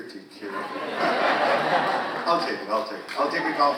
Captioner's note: audience laughing